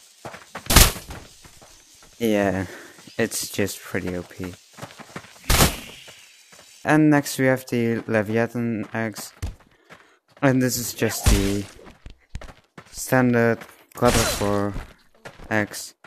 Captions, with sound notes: [smash] yeah It's just pretty over powered [whoosh] And next we have the Leviathan Axe Adn this is just the.. ..standart God of War axe